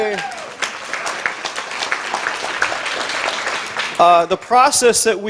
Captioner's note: audience applause